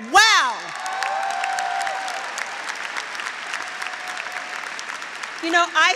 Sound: graduates cheering; graduates applauding

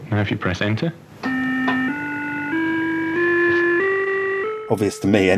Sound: computer tones

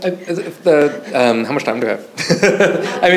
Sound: laughing

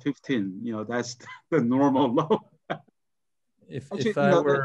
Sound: laughs

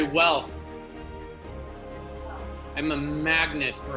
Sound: audience responding

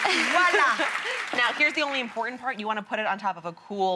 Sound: laughs

